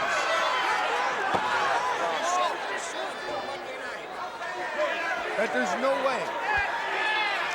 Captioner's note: crowd chatter